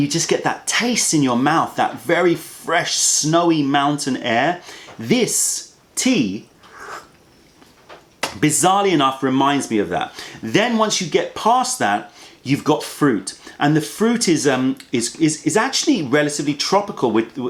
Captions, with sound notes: just get that taste in your mouth - that very fresh, snowy mountain air. This tea, [SIPS TEA] bizzarly enough, reminds me of that. Then, once you get past that, you've got fruit. The fruit is actually relatively tropical.